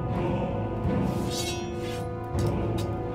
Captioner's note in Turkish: Kılıç sesi